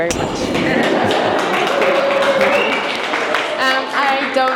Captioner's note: audience clapping